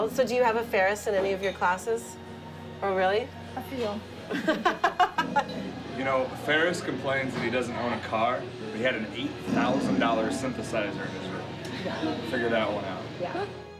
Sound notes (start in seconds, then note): 4.3 laughing